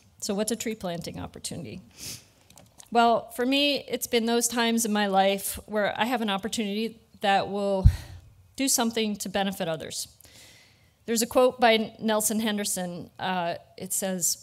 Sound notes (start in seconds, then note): none